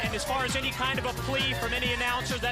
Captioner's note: crowd chatter